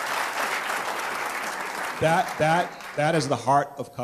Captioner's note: applause